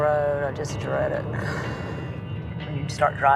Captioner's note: sighs